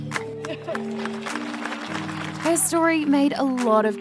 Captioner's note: applause